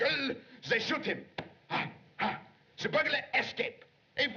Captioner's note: gasping